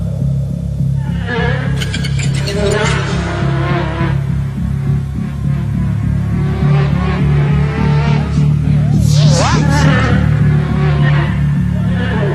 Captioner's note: buzzing